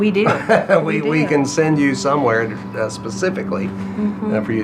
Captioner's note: laughs